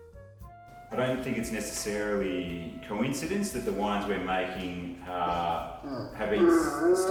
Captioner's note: Sam the dog makes noises